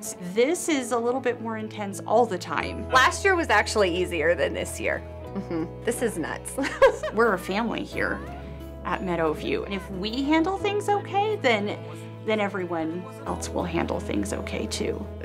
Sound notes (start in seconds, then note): 6.6 laugh